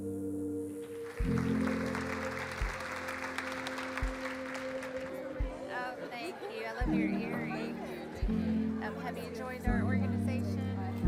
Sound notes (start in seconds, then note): 0.3 dramatic music continues; 2.7 audience clapping